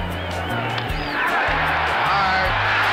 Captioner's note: audience cheering